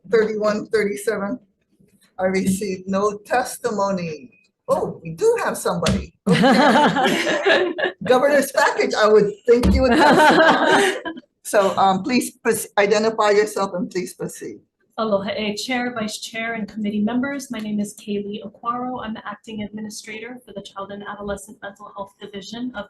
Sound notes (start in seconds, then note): 6.3 people laughing in background; 9.7 laughing drowns out speaker